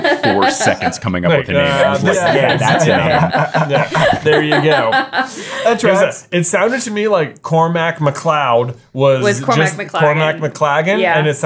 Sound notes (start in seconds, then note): 0.0 laughing; 4.8 everyone laughing